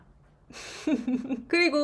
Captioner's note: laughs